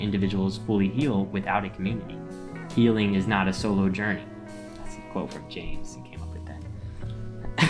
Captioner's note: laughs